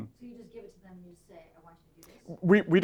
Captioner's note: voiceover